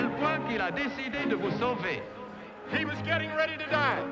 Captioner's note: translates in French